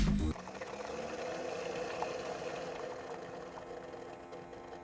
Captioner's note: coffee machine beeps; filter thuds; coffee machine whirs